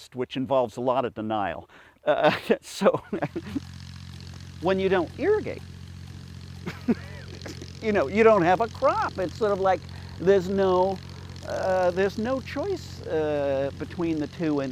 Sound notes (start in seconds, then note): 2.7 chuckles; 3.2 sprinklers buzz; 6.6 chuckles